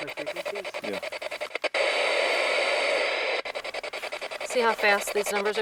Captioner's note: box hisses